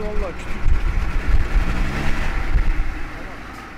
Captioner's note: engine revs up